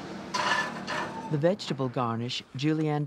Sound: voiceover

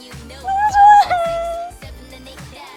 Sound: crying

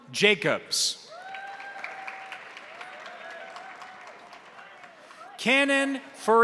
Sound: crowd cheering; crowd applauding

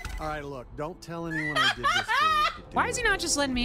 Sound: laughter

